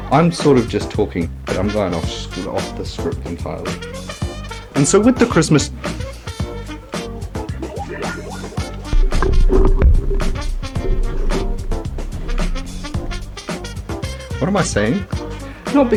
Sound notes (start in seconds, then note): 5.6 loud microphone noises